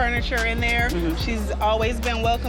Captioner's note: person mmhmms